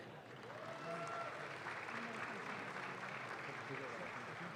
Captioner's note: audience claps